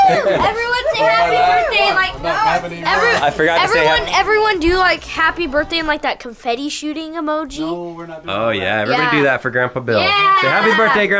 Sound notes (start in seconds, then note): 0.8 cheering